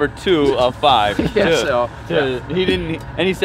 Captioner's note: laughing